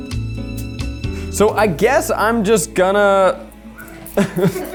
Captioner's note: upbeat music; chuckles; people chuckle